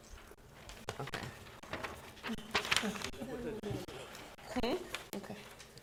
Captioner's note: board chatting quietly